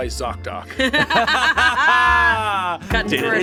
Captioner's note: everyone laughs